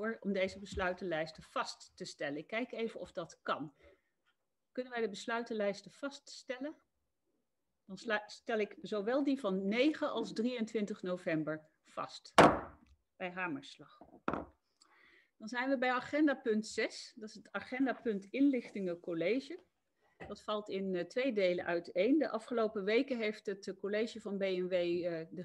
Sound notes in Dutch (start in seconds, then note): 11.9 Voorzitter klopt met hamer